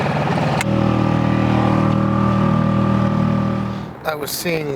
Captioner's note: boat engine roaring